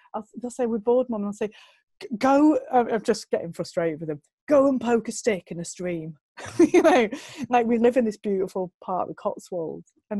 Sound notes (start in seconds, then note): 7.1 lacht